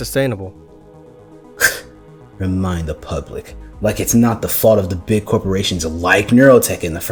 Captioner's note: scoffs